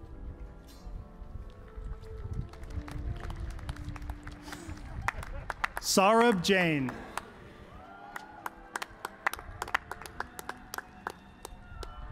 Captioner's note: applause